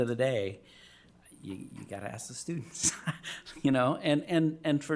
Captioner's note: chuckling